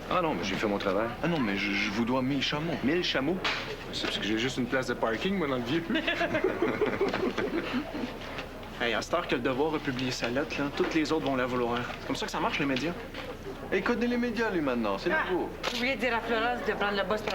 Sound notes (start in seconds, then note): 5.8 Rires